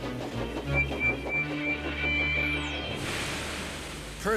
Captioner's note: whistles rapidly